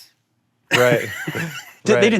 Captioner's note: laughs